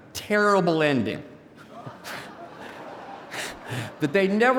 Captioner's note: audience laughing